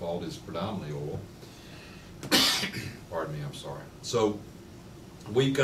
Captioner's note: coughs